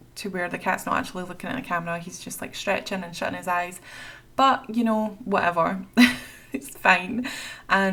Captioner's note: laughs